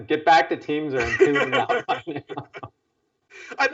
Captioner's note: laugh